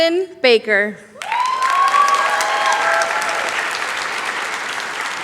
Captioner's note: applause